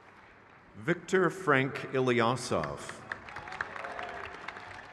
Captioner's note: crowd cheers